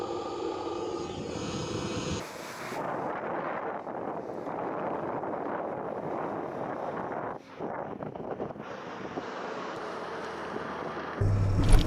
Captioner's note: wind blowing